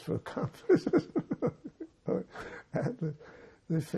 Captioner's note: laughing